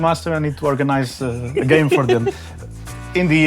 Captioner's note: giggles